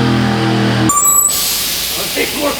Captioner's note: machine squeals loudly; air hissing loudly